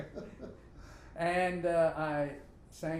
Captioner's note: both laughing